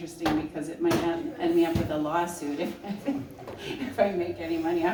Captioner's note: laughs